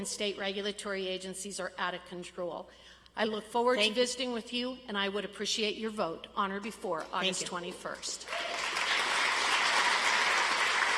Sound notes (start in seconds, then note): 8.2 audience applauds